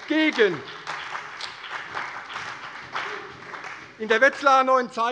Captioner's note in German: Beifall bei der CDU und dem BÜNDNIS 90/DIE GRÜNEN